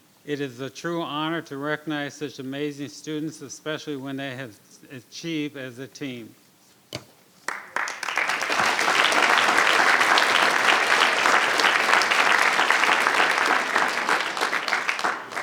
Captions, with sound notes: It is a true honor to recognize such amazing students especially when they have achieved as a team. (audience applauding)